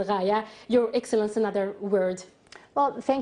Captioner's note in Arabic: تتحدث الإنجليزية